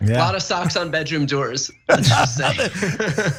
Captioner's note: laugh